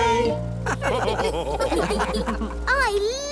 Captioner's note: all laugh